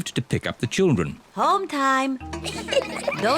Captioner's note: children giggling